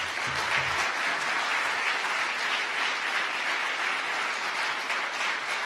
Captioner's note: audience applause